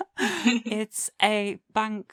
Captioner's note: laughter